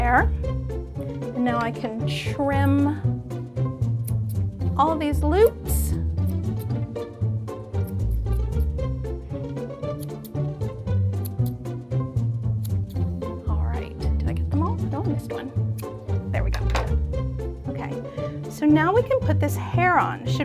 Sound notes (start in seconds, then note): 5.8 upbeat music continues; 11.1 scissors snipping